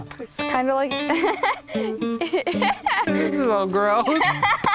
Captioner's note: loudly laughing